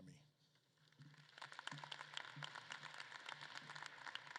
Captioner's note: audience claps